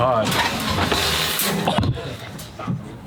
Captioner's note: crashing